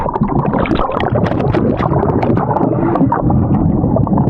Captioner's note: bubbles gurgling